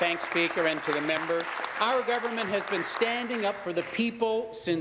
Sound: applause

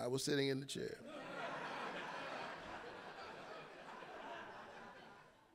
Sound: audience laughing

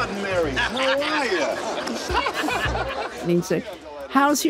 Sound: crowd laughs

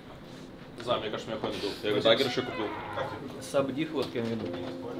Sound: people speaking in foreign language; person speaks in foreign language

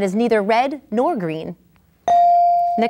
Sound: ding

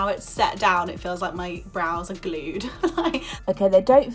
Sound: laughing

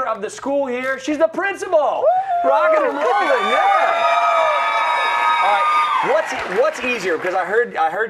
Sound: cheers and applause

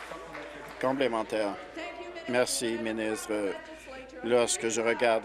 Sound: applause

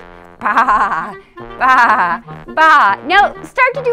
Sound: bleats like a sheep

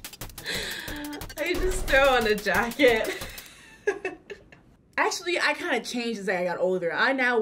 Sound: laughs

